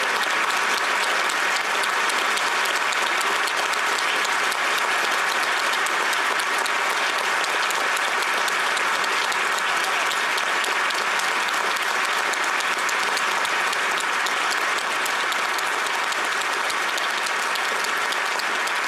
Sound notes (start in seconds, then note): 3.9 applause